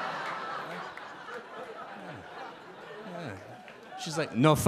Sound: audience laugh

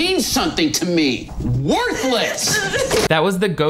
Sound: Miranda sniveling

